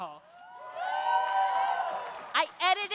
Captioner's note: audience cheering; audience applauding